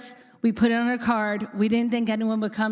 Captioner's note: none